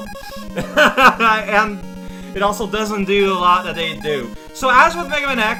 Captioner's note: laughing